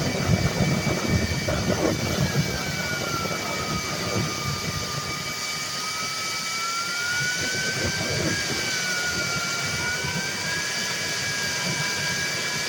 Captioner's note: turbine sounds